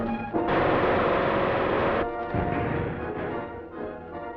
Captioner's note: machine gun fires